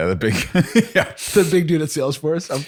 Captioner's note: laughs